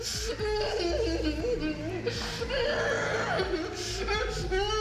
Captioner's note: dramatic music; victims groaning